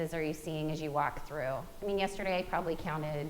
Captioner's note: none